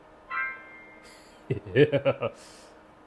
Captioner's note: evil laugh